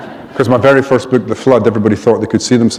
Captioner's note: laughter